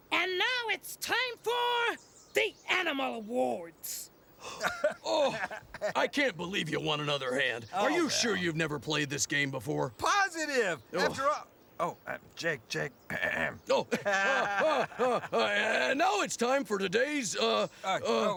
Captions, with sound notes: - And now it's time for the Animal Awards! (Jake gasping) (Stinky laughing) - I can't believe you won another hand. Are you sure you've never played this game before? - Positive! After all- Oh, uh, Jake, Jake. (clears throat) - Oh! (Stinky laughing) And now it's time for today's, uh...